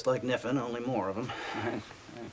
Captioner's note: nervous laughing